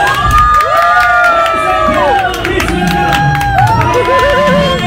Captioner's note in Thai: ปรบมือ